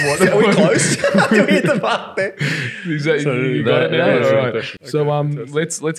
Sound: laughing

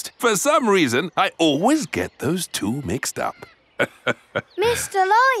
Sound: laughs

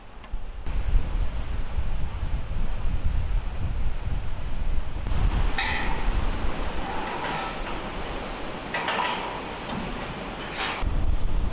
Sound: river running

